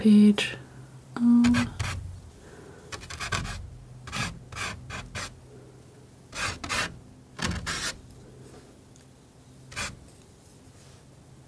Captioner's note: scratching